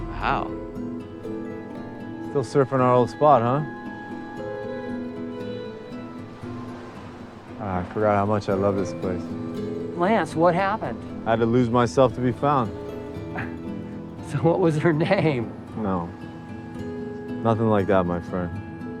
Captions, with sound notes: - How? - Still surfing our old spot, huh? (waves crashing) Ah, I forgot how much I love this place. - Lance, what happened? - I had to lose myself to be found. - (chuckles) So what was her name? - No, nothing like that, my friend.